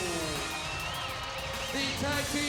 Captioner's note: audience cheers